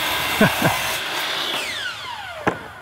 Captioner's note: chuckles